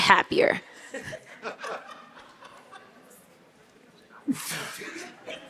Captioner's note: audience laughing